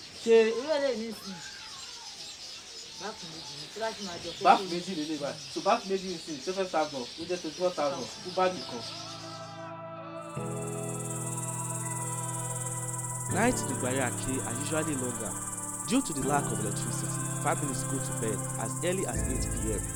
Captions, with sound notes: This bags contains two bowls And the bag is twenty four thousand naira [birds chirping] Night in Igbari Ake are usually longer. Due to the lack of electricity, families go to bed as early as 8 p.m.